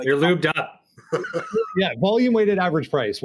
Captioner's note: laughing